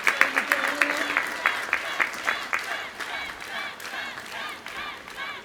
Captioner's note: applause